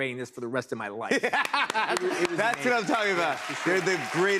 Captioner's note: laughs